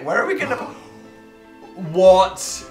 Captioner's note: gasp